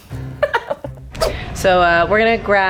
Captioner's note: laughing